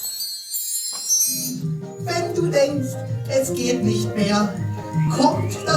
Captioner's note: marionette voices